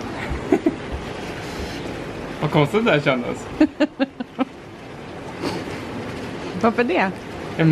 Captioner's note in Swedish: fnissar; skrattar